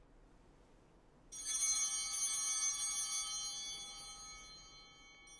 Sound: chimes ringing

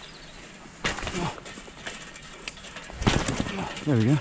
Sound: fence jiggling

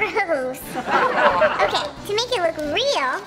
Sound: audience laughter

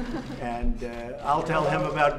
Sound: laughter

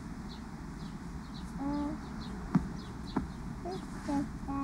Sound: babbling

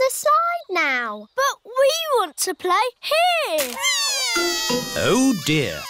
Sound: crying

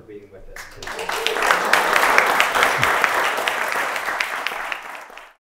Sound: audience applauding

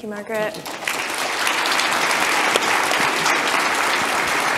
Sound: audience applause

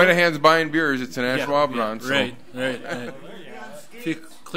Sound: overlapping chattering

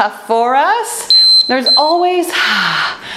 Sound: timer beeping

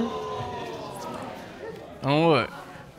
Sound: audience groan

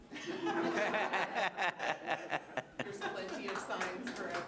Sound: laughing

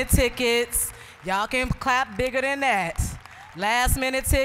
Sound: applause

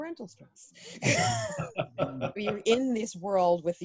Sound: laughing

